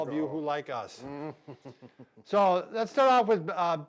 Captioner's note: chuckling